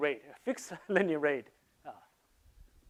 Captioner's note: chuckles